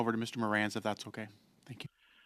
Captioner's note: speaking French